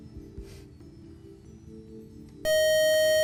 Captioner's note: buzzer